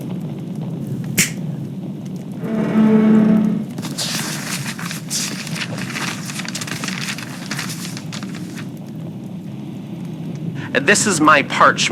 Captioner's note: snap fx, summons scroll fx, paper scroll being unfurled fx